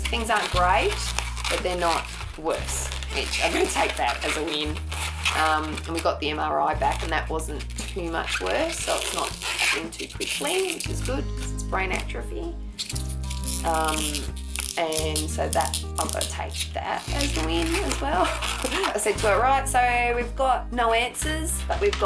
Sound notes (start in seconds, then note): 0.0 squeaky balloon noises; 12.6 balloon squeaking; 17.9 chuckles